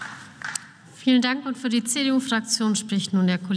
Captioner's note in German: Beifall